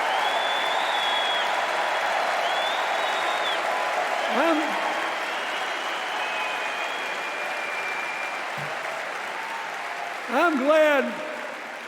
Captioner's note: applause